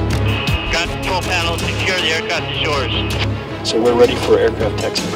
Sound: radio chatter

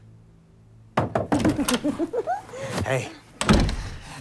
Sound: giggling; knocking

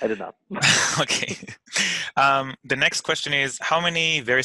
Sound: laughing

